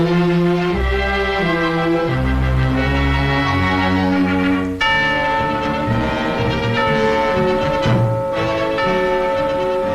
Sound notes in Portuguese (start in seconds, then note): 4.8 Sino do Relógio toca